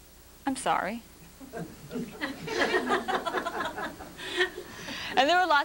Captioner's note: laughter